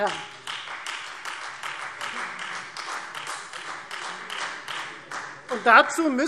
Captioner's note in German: Beifall Freie Demokraten